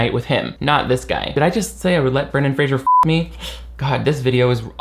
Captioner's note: beep